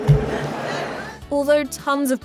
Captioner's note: laugh